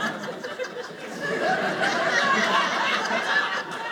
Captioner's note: audience laughing